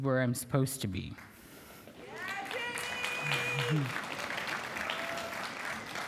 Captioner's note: applause